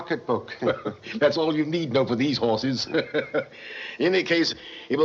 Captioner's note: chuckles